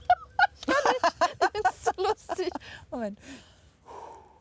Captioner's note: laughs